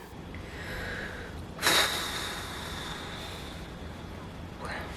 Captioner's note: deep breath, long exhale